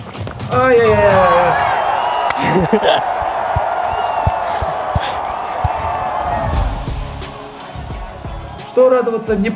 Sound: fans cheering sound effect

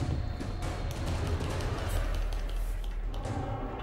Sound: frantic tapping

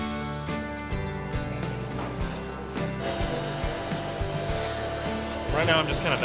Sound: upbeat strumming music; loud vacuuming

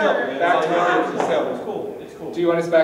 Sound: murmuring

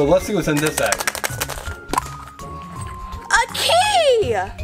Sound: Assistant rattles egg

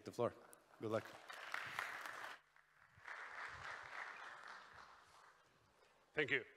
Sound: applause

